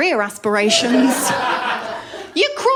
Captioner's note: laughter